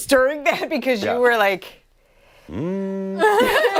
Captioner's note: laughter